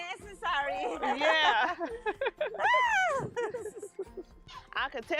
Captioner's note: laughing; laughing